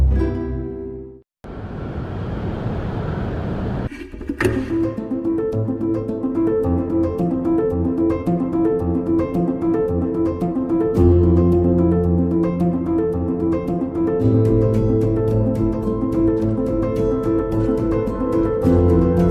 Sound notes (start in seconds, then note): 1.7 traffic bustling; 4.2 upbeat rhythmic music